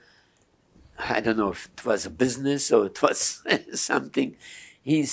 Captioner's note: laughing